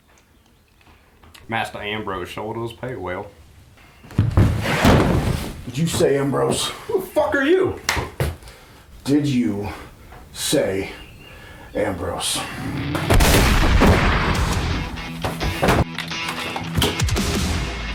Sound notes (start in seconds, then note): 0.1 eating cereal; 4.1 door crashes open; 12.9 shotgun blast